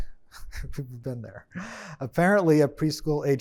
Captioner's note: chuckles